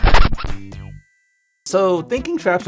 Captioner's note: record scratches